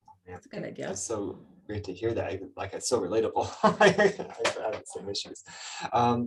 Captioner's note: laughs